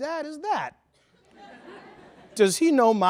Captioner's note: laughter